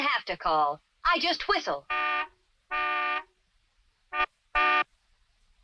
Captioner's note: car horn blaring